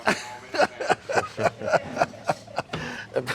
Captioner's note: laughs